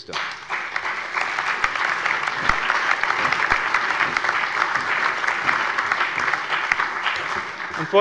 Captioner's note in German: Allgemeiner Beifall